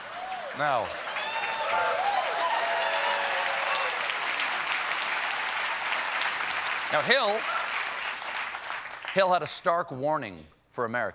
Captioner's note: cheers and applause